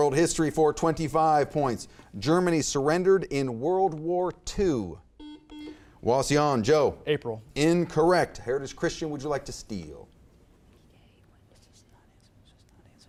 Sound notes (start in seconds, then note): 5.1 buzzer beeps